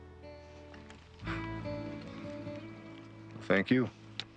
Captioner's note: laughs softly